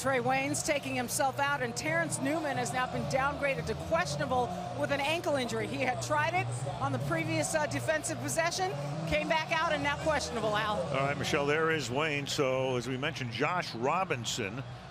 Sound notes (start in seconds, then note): 8.7 cheering